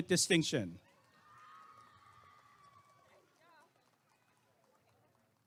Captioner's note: applause and cheering